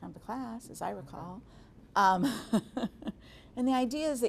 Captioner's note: chuckling